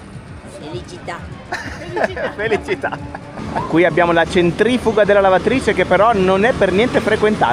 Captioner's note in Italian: risate